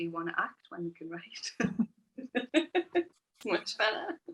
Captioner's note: laughs